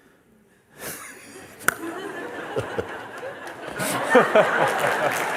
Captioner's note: Lachen und Applaus